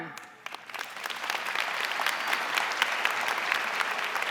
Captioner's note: audience applauding